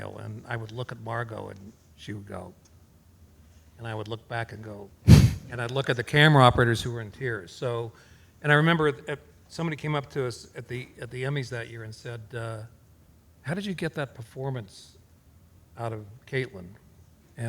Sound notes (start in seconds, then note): none